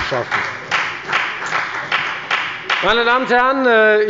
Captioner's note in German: Beifall bei der FDP